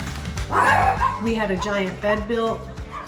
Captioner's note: dogs barking